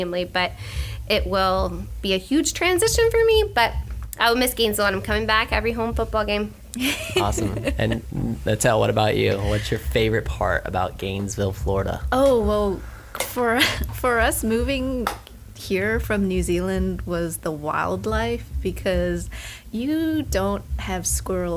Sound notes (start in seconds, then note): 6.8 laughter